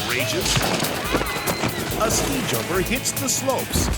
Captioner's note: people screaming